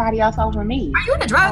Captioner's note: other students talking